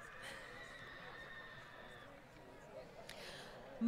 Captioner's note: applause